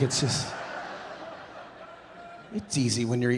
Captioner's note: audience laughing